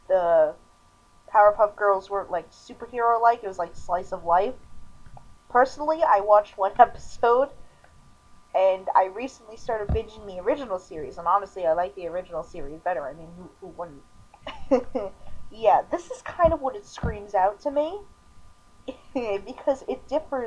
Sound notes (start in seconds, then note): 14.4 awkward laughter; 18.9 chuckling